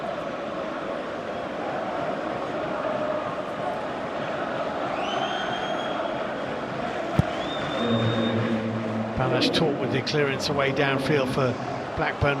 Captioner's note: whistle